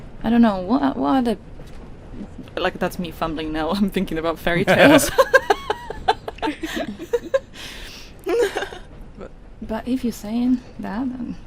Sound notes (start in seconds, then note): 7.4 laughter